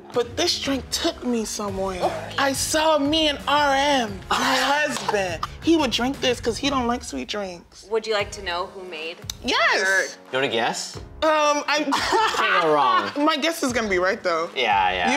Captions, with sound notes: But this drink took me somewhere. I saw me and RM, my husband, he would drink this 'cause he don't like sweet drinks. - Would you like to know who made-- - Yes. - You wanna guess? - Um. (laughing) - It can't go wrong. - My guess is gonna be right, though. - Yeah. Yeah.